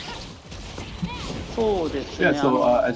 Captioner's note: speaking japanese